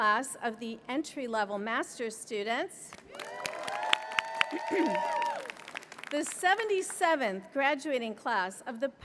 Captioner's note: applause